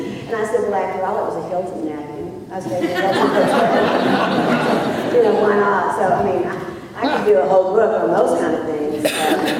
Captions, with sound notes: And I said, well after all it was a Hilton napkin, I was [laughter], you know, why not, I mean, so I could do a whole book on those kinds of things.